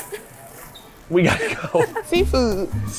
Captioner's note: laughing